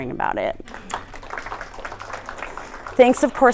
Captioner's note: applause